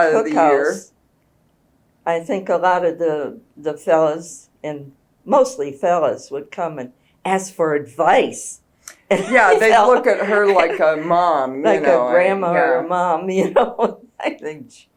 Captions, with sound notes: Being in a cookhouse, I think a lot of the fellows and—mostly fellows—would come and ask for advice. (Laughs) Yes, they’d look at her like a mom. Like a grandma or mom.